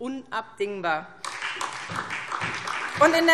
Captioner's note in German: Beifall SPD